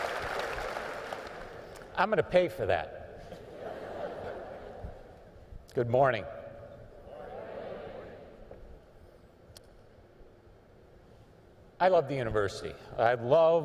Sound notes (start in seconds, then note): 0.0 applause; 3.3 laughter